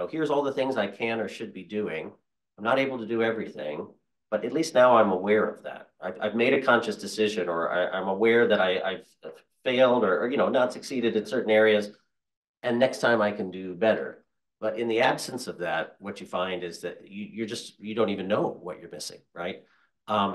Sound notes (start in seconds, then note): none